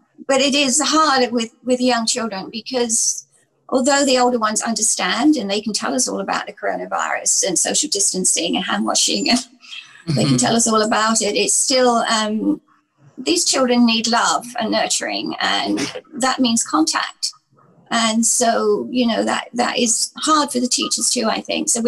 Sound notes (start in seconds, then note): 10.0 chuckles